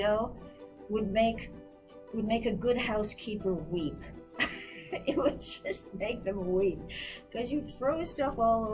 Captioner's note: laughs